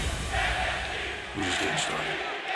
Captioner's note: fans chanting